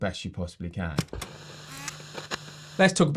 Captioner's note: projector zooming